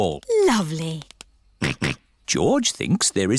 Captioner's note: snorts